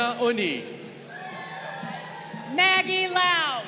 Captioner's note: crowd cheering